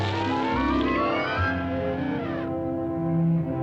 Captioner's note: elephant trumpets